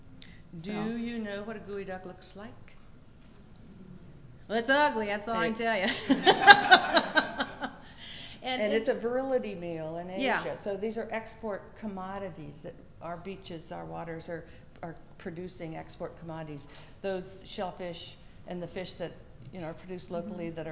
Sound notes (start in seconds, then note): 5.8 laughter